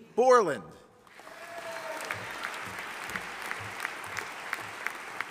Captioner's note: audience applauding